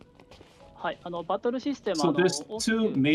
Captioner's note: speaking japanese